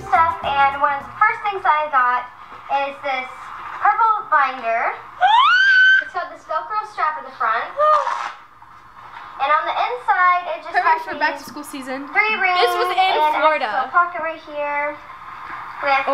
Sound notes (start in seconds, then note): 5.2 shrieks